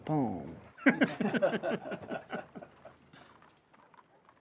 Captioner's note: laughter